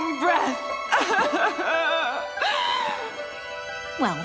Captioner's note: sobbing